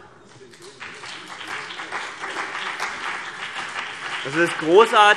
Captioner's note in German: Beifall BÜNDNIS 90/DIE GRÜNEN und vereinzelt CDU